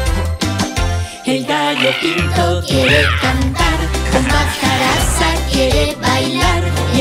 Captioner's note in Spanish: Sonido de cotorras